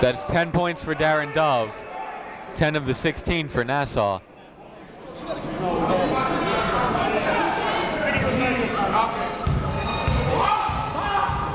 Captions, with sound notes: That's 10 point for Darin Dove. 10 of the 16 for Nassau. (crowd talking) (coaches yelling)